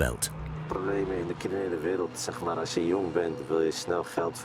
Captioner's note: Dutch spoken audio